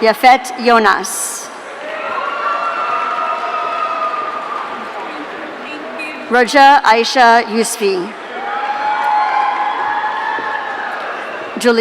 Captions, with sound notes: Yafet Yonas. (audience cheering) Raja Isha Yusfee. (audience cheering)